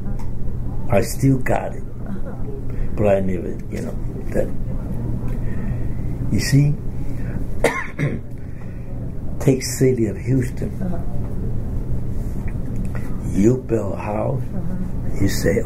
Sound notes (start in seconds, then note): 7.6 coughs